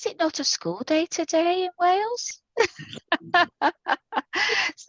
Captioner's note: laughter